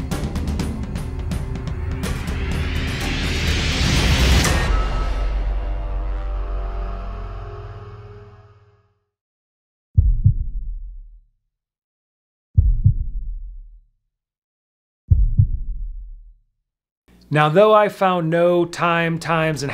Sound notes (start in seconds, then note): 10.5 heart beating